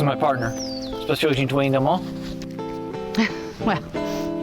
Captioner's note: laugh